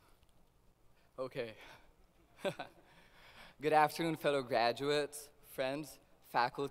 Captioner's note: laughs